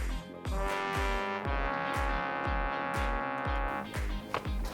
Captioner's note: fail buzzer blaring